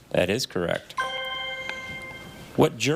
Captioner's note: chime resonating